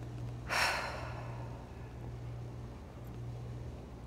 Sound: Alex exhales heavily

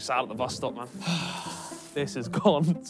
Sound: sighing

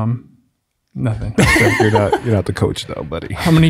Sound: chuckling

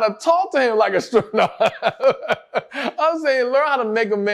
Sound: laughs

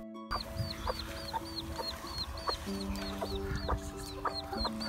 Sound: cheep cheep sounds

